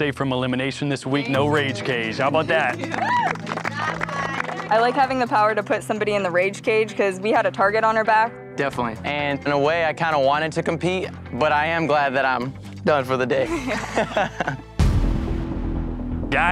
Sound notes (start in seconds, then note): 2.3 cheering; 13.4 laughs